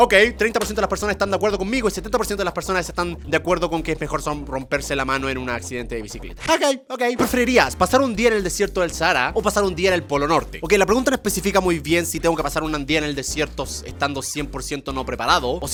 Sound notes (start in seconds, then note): none